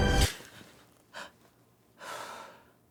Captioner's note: gasps